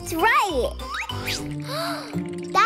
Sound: gasping

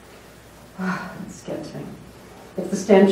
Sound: sigh

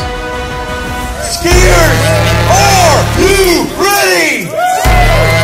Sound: cheering

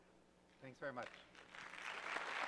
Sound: voiceover; audience applauds

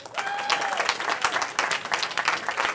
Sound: cheering

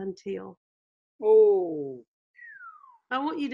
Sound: whistles

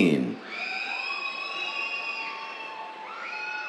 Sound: cheers

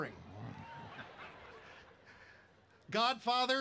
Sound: laughter

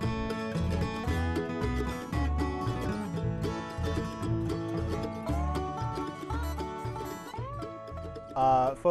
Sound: laughing

